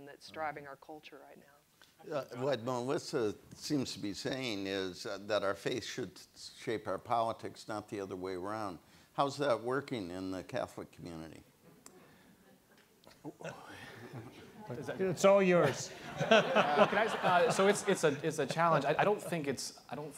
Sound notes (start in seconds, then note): 11.9 audience laughs; 15.8 laughs